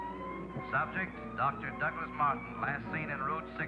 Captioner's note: man On Radio